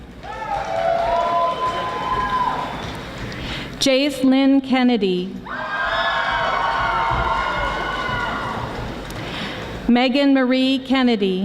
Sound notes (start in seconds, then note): 0.1 audience applauding; 6.2 audience applauding